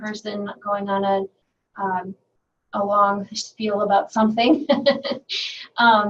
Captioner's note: laughing